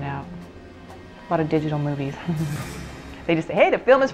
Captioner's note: laughing